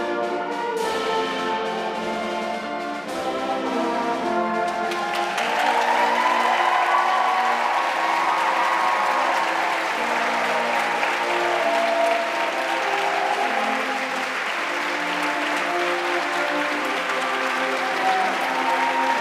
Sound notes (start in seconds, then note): 5.0 audience cheering; 5.0 audience clapping